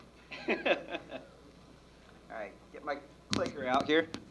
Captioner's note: laughs